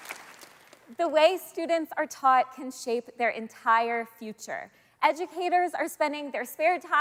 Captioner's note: applause